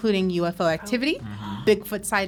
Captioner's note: gasps